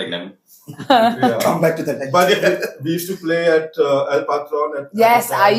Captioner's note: laughs